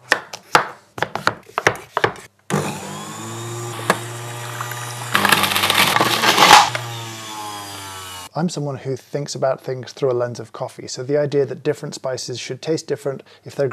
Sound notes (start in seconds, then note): 0.9 knife chopping; 2.5 blander buzzing